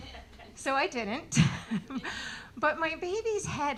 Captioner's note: laughing